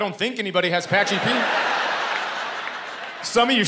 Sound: laughter

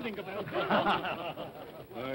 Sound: all chuckle

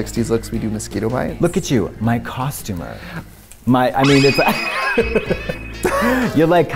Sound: laughs

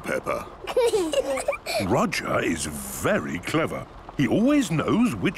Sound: children giggling

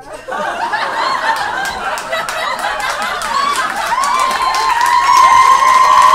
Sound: audience laughs and applauds

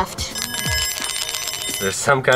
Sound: bells jingling

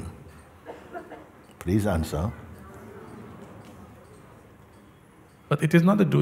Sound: voices in audience

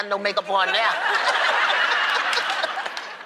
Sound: laughter

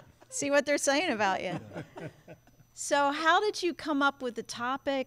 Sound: laughter

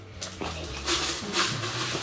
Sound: rustling

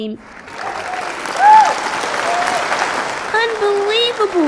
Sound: clapping

